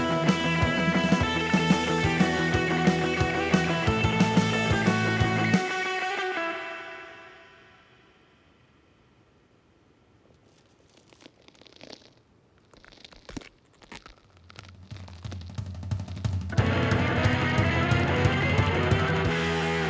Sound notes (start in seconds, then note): 1.8 energetic music continues; 10.3 joints crackling; 16.5 energetic music